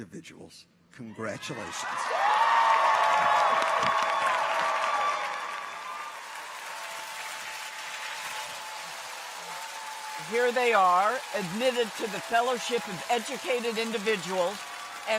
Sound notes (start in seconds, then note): 3.2 audience applauds; 3.2 people cheer; 7.2 clappers clacking